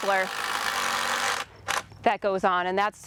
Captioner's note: drilling